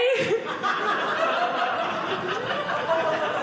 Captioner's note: audience laughing